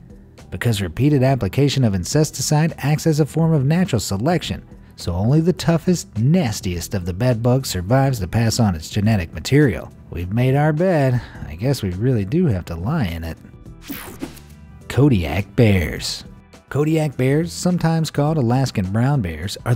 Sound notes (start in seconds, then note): 13.8 electricity buzzing